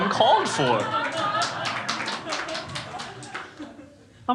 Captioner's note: crowd laughs